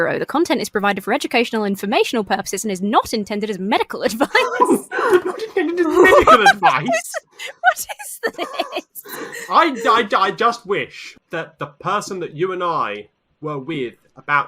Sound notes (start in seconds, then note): 6.0 laughs